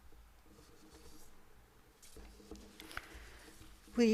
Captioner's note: silence